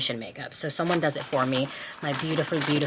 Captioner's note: paper crinkling